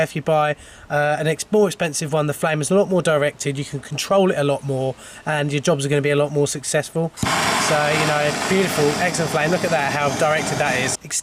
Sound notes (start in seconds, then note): 7.2 blowtorch roars